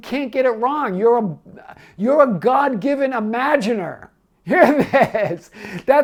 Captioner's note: laughing